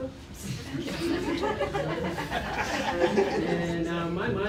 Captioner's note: laughter